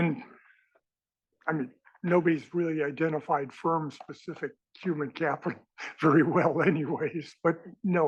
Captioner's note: laugh